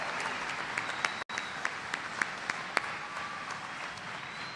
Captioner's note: applause